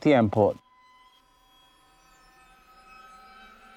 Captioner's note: high pitched buzzing